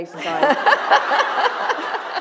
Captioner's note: laughter